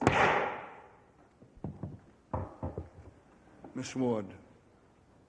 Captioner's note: gavel thunks